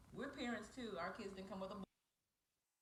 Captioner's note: distorted audio